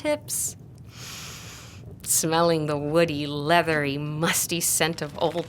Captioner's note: inhales